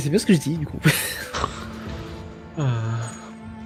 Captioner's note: small laugh